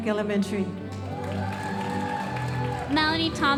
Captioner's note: audience cheering and applauding